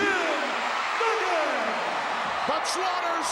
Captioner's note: crowd cheers